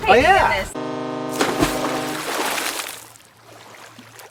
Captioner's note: ship horn blaring